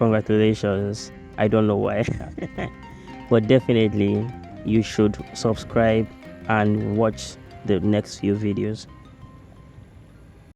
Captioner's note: laughs